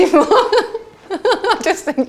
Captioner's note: laughs